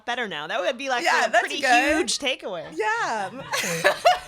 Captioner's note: laughs